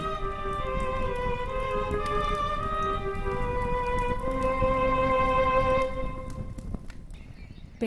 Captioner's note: music continues playing; paper burns and fire crackles